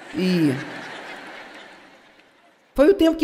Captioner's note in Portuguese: audiência ri